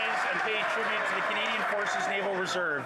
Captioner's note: yelling